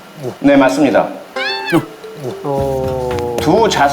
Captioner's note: crying